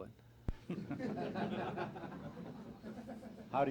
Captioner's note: laughter